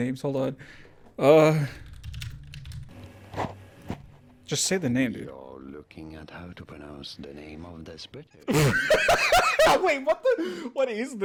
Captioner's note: laughter